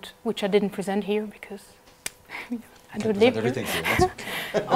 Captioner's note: laugh